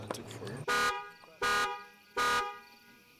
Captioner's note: truck alarm goes off